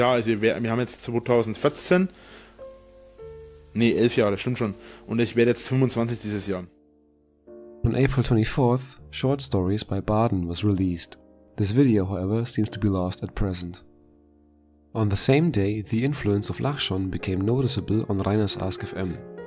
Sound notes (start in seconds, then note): 2.1 inhales; 4.8 inhales